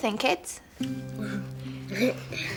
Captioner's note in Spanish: solo de guitarra suave; riendo